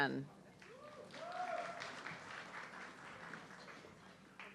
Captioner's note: audience clapping